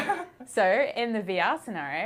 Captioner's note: laughter